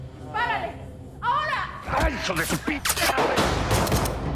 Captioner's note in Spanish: Disparos